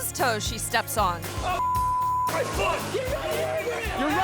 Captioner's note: beep